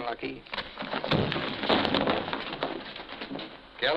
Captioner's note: thudding